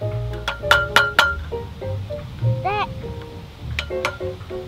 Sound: tool hammering

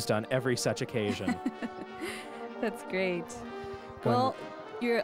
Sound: laughs

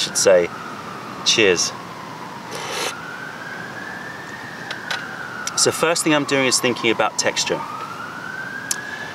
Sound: sips tea

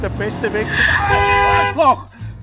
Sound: ahh

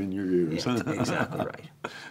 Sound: laughing

